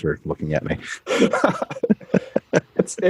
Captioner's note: chuckles